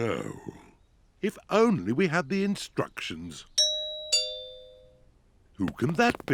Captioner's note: doorbell rings